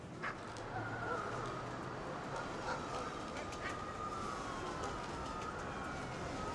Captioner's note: dog barking; siren wailing